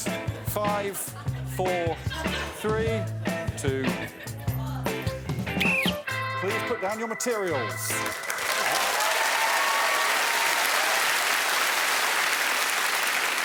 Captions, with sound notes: Eight, seven, six, five, four, three, two... [blows whistle]. Please put down your materials. [cheering and applause]